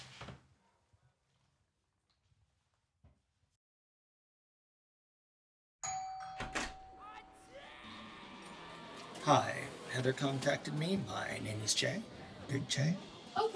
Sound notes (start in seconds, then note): 5.8 doorbell ringing